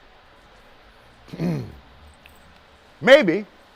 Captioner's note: clears throat